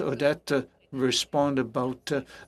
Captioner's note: speaking in French